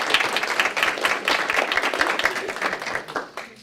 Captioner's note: applause